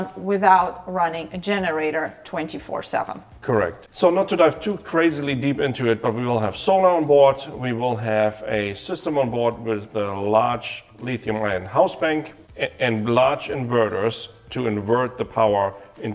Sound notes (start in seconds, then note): none